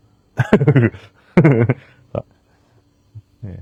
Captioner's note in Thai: เสียงหัวเราะ